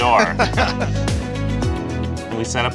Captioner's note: laughs